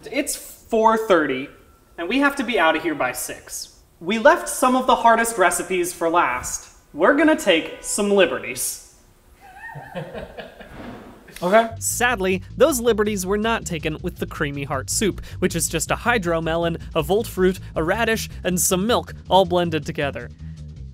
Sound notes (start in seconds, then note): 9.4 laughs